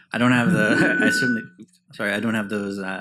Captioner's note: mic feedback